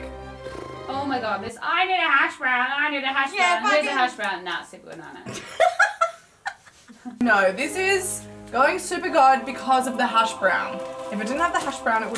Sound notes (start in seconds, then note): 6.4 laughing